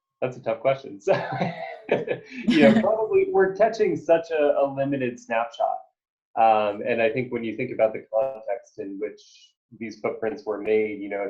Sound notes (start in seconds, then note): 1.0 laughing